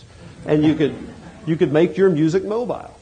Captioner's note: chuckling